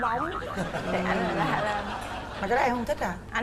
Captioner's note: laughing